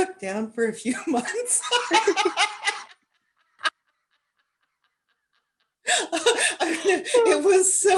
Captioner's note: laughter